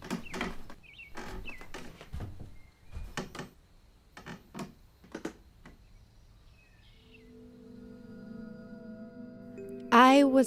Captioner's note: door closing